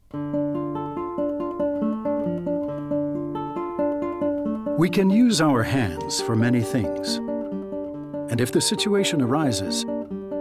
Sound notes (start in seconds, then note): 0.2 guitar music; 5.0 voiceover